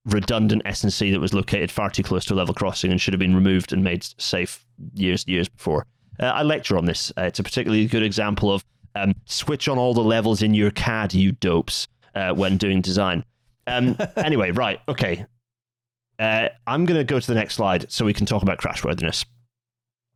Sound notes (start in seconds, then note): 13.7 laughs